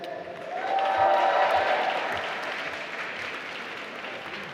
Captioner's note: applause